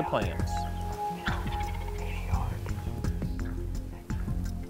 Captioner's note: whispering